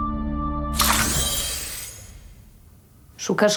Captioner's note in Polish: Dźwięk naładowania pistoletu laserowego